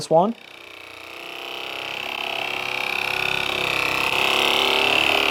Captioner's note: massage gun vibrates